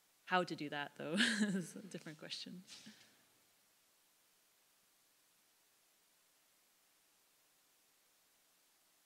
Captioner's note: laugh